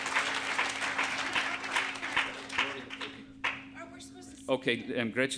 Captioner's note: on-stage chattering